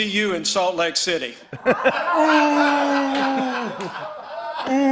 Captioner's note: laughter